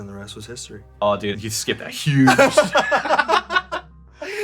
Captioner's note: laughter